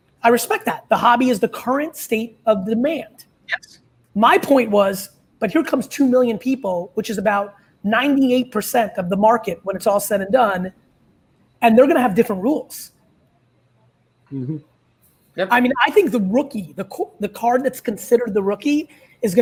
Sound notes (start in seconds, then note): none